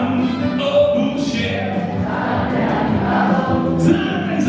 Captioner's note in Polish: publiczność